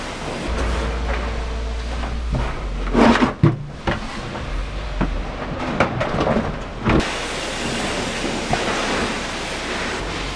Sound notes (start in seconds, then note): 2.8 scraping